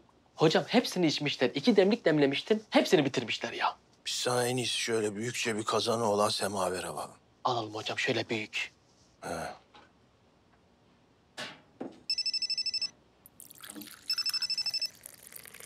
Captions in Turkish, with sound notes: Hocam, hepsini içmişler. İki demlik demlemiştim... ...hepsini bitirmişler ya! Biz sana en iyisi büyükçe bir kazanı olan semaver alalım. Alalım hocam, şöyle büyük. (Telefon çalıyor)